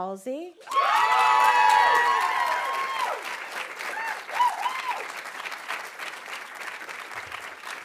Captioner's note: audience cheering; audience applauding